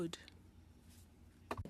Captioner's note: speaking French